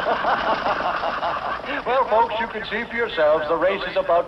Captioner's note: laughs